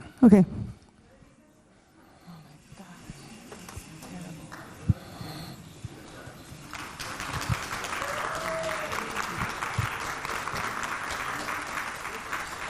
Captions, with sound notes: Okay. Oh my gosh. Terrible. (audience clapping)